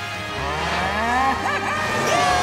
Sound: mooing

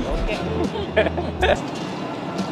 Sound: laughs

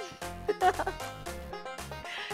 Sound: laughing

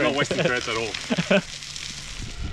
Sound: laughs

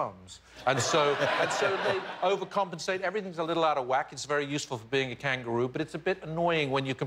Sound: laughter

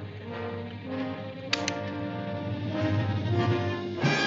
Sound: gun cocks

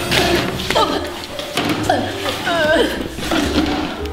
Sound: grunting

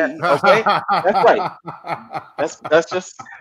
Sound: laughing

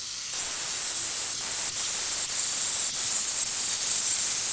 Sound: metal grinding

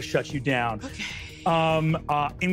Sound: sigh

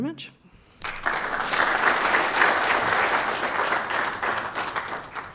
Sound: applause

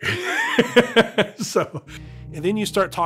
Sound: laughing

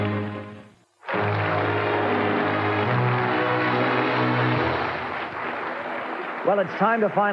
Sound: audience clapping; dramatic music

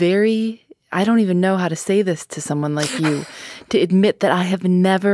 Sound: laughs

